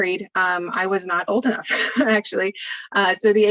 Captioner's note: laughter